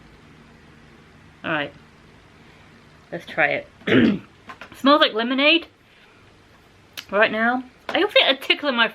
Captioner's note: ahem